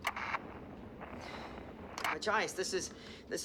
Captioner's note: static